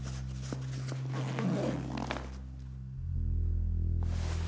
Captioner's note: bag zips